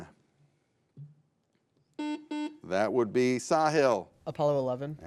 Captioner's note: buzzer beeps